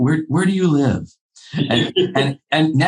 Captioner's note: laughing